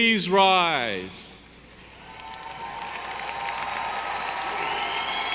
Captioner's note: audience applauding